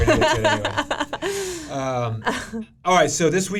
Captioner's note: laughing